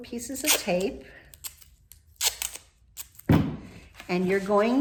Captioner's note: tape rips